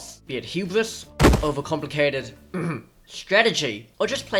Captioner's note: cough